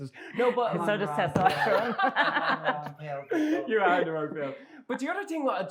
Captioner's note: laughter